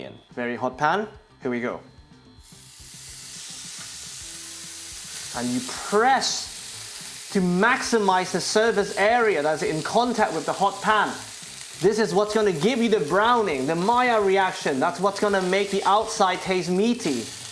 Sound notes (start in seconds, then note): 2.8 sizzling sound